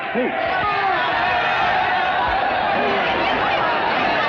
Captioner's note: angry chattering